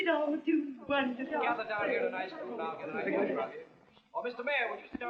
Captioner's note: chattering